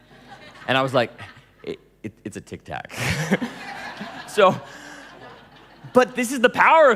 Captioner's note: laughing